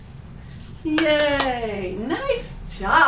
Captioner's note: claps